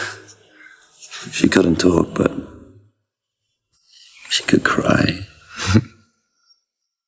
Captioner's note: laughs